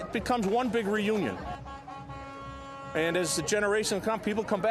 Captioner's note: honking